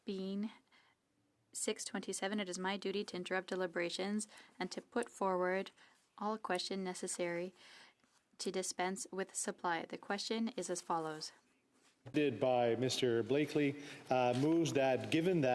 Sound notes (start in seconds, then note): 3.0 speaking French